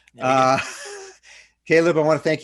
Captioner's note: laughing